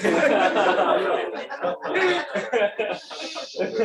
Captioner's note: laughter